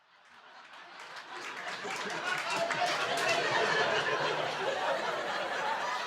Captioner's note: audience laughing and clapping